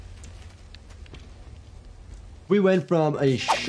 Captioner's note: debris crackling; robot shuffling; graphics swishing